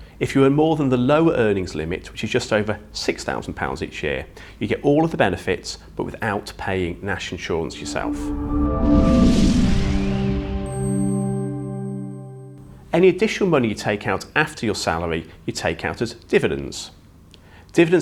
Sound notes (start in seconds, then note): 7.6 melodic sting; 8.2 bell dinging